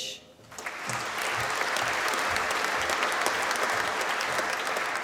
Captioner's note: applause